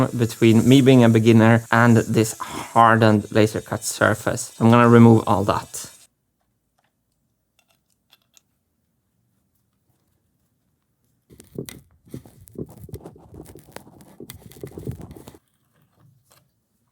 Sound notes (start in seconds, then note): 11.2 metal crunching ASMR